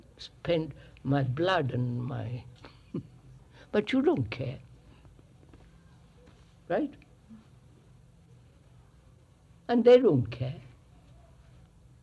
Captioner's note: laughs